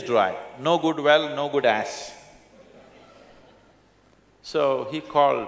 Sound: laughter

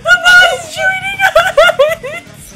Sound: crying

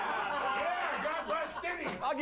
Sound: audience cheers

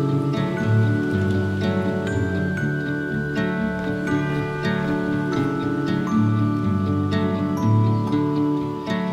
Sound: squirrel eating; bells ringing

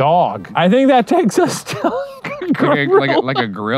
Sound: laughing

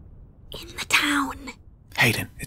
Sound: silence again; whisper

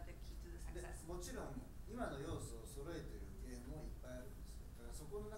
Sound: speaking in foreign language

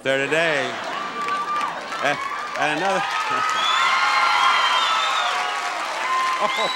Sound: audience laughs; audience applauds

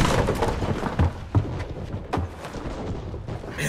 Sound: cannons firing

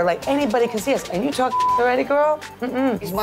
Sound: beep

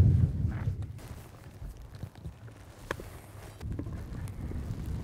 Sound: grass rustles

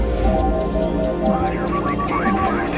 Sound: beeping

